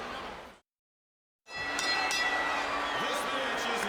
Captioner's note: bell ringing